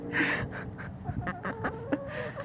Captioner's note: giggling